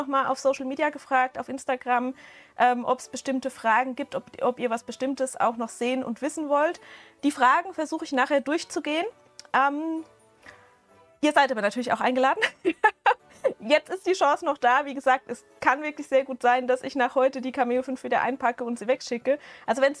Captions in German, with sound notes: mal auf Social Media gefragt, auf Instagram, ähm, ob es bestimmte Fragen gibt, ob, ob ihr was Bestimmtes auch noch sehen und wissen wollt. Die Fragen versuche ich nachher durchzugehen. Ähm, ihr seid aber natürlich auch eingeladen. [Gelächter] Jetzt ist die Chance noch da. Wie gesagt, es kann wirklich sehr gut sein, dass ich nach heute die Cameo wieder einpacke und sie wegschicke. Also, wenn